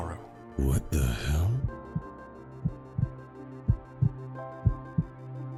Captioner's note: whispering